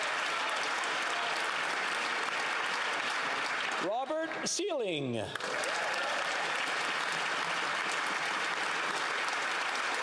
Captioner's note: applause